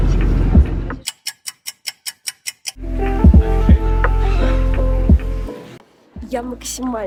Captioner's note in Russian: тиканье часов